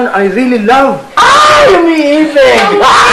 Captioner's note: laughs